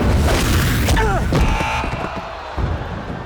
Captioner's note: grunting, buzzing